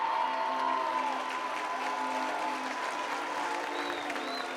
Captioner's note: cheering